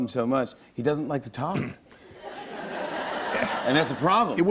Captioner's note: laughter